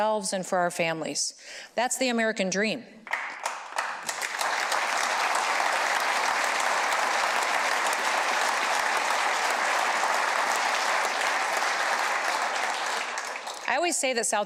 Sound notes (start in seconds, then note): 5.7 applause